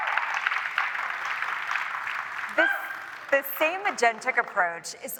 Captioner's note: applause